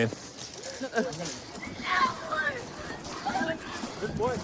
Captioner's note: yelling